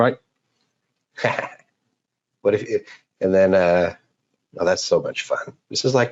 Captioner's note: laughs